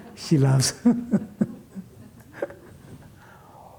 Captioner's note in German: Sie lacht